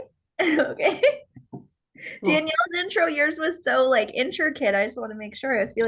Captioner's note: laughs